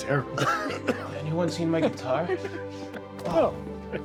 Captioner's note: Darlus coughing